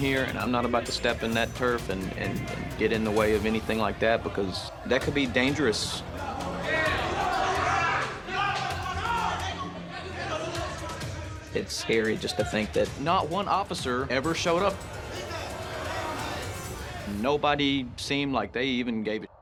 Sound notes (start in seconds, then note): 6.4 shouting